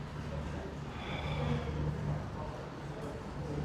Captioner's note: Jamie sighs